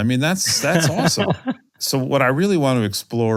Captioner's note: laugh